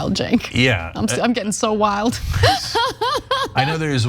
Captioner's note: laugh